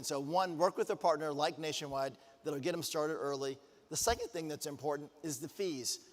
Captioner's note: none